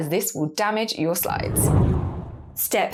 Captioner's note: graphic whooshes